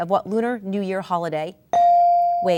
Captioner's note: ding